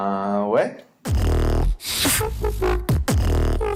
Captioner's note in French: beatbox